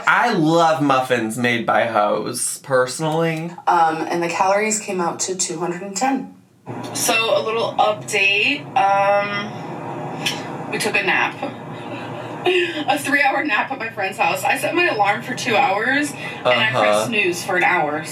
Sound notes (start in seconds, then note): 11.7 chuckles